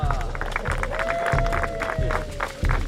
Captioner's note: applause, Cheering